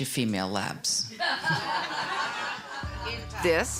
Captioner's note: laughter